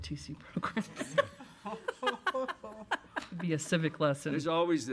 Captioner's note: audience laughs